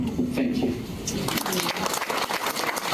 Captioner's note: clapping